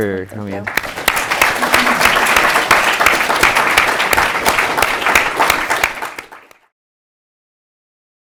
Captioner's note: applause